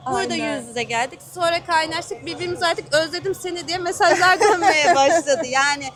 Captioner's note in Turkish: kahkaha